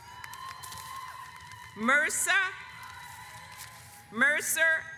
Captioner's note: audience applauds